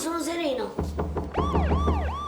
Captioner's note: banging on the door; police sirens in background